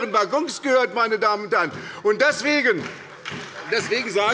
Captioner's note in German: Beifall bei der SPD